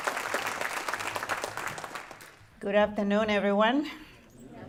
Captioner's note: applause